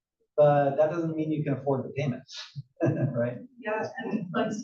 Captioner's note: laugh